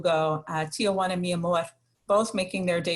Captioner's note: speaks in foreign language